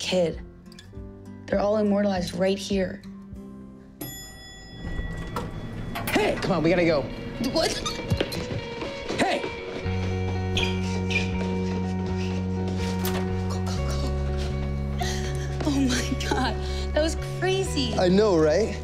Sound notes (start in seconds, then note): 4.0 elevator dings; 6.5 shrieks; 12.1 whispers